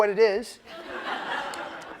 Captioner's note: laughter